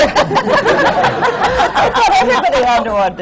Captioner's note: laughter